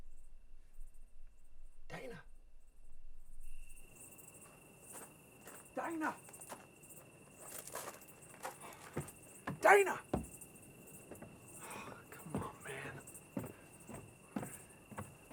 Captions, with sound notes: - Dana? [footsteps crunching] Dana? Dana, [sighs] come on, man!